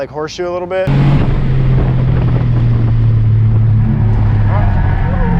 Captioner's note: engine rumbling